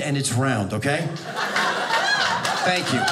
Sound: audience laughing

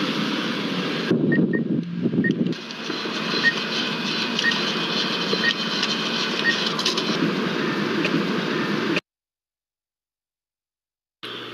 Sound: beeping

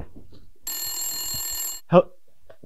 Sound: phone ringing

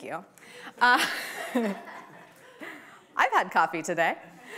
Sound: laughs

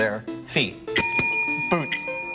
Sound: bell dings

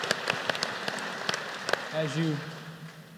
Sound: applause

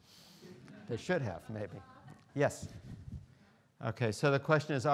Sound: students laughing

